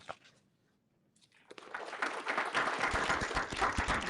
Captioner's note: applause